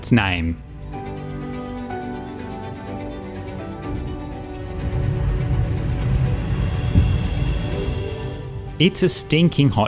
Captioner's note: train noises